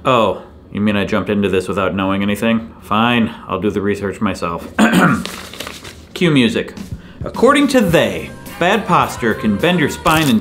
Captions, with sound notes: Oh, you mean I jumped into this without knowing anything? Fine, I'll do the research myself. (clears throat) Cue music. (upbeat rock music) According to they, bad posture can bend your spine